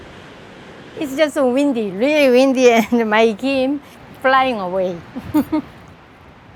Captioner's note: laughs